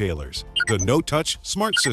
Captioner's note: beeping